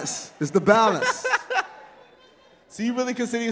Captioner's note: laughs